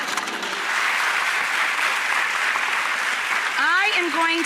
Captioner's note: applause